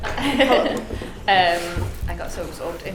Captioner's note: laughs